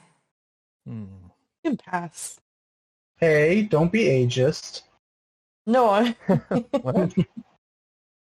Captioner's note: laughter